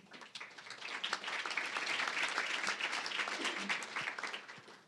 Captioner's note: applause